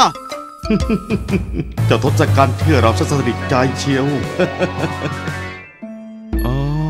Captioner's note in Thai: หัวเราะเบาๆ